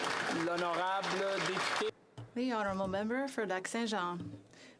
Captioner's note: applause